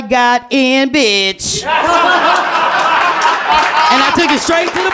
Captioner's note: laughter